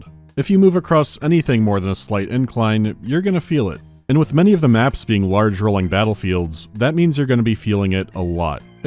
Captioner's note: none